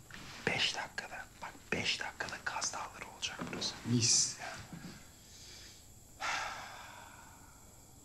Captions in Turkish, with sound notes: ...beş dakikada, bak beş dakikada Kaz Dağları olacak burası. Mis. (Nefes sesi)